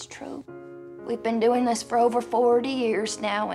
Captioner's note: none